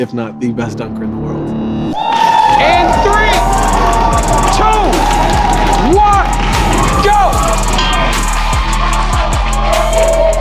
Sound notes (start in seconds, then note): 1.9 spectators applauding; 7.6 inspired music